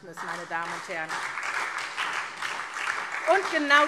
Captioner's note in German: Beifall SPD und DIE LINKE